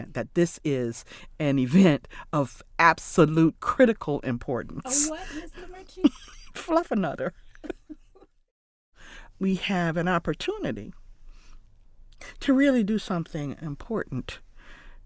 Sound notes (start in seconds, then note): 4.8 laughs; 7.6 both laughing